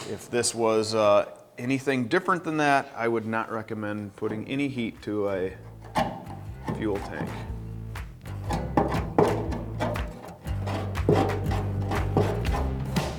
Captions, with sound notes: If this was anything different than that, I would not recommend putting any heat to a fuel tank. (scraping) (upbeat rock music)